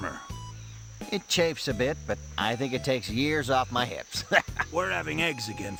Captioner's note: laughs